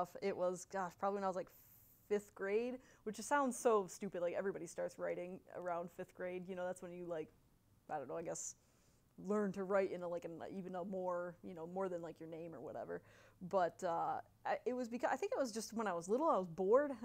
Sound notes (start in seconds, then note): none